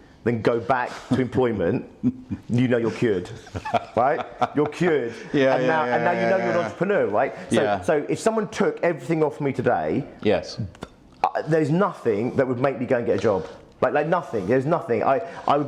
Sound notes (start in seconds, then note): 2.0 laughs